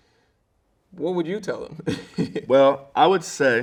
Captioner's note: chuckles